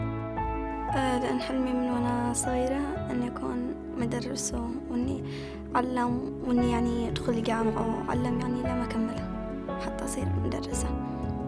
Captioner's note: speaking Arabic